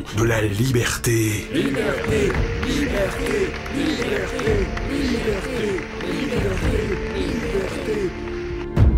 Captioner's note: crowd chanting "freedom !"